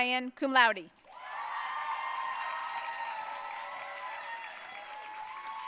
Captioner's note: audience cheering and applauding